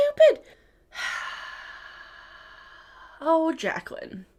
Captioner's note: sighs